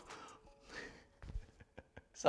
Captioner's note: chuckles